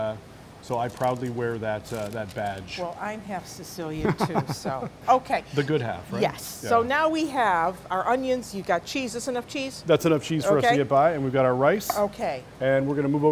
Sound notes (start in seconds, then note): 4.0 laughter